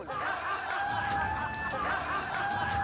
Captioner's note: laughter